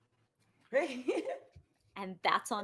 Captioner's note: laughs